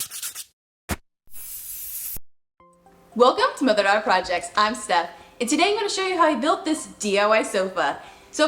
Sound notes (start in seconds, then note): 0.0 sandpaper gritting; 1.3 aerosol can hissing